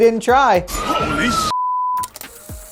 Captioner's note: beep